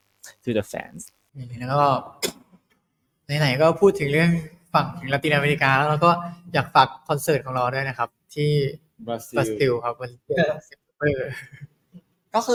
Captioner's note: in Thai